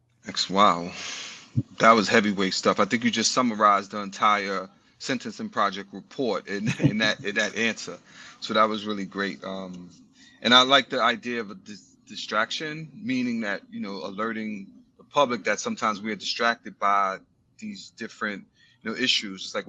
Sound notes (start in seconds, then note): 6.2 chuckles